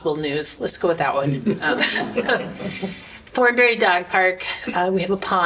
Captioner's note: laughter